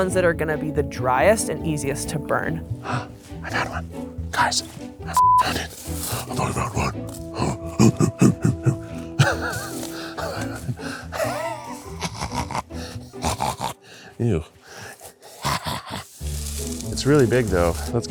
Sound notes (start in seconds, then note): 3.4 upbeat orchestral music; 7.4 hooting and laughing; 14.5 laughs